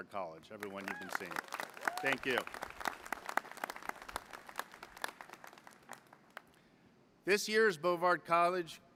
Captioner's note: applause